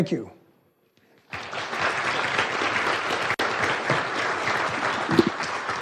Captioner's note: audience applauding